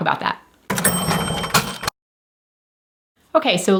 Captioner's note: cash register dinging